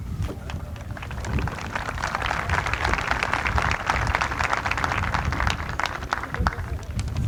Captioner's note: applause